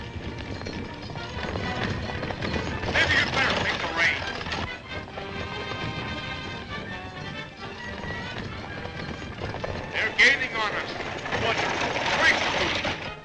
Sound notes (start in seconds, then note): 4.0 exciting music continues; 8.7 horses galloping